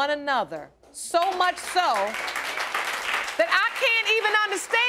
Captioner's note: crowd applauding